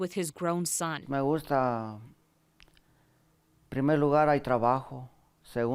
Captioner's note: speaking in foreign language